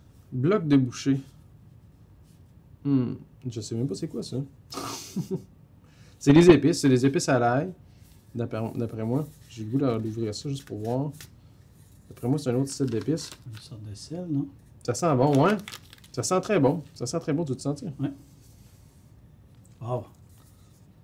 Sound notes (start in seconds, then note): 4.6 laughs